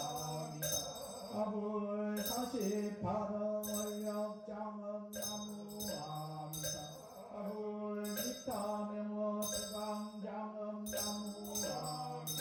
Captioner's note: chanting